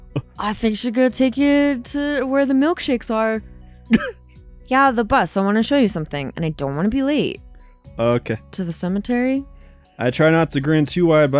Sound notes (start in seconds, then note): 3.9 chuckles